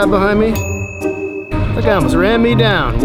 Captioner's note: beep